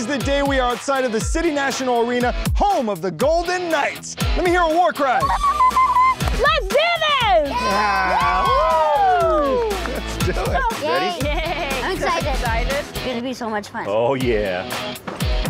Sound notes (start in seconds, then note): 5.0 war cry; 7.5 cheering